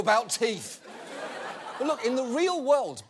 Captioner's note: audience laughing